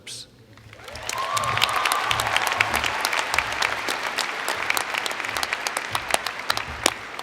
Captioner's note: cheers and Applause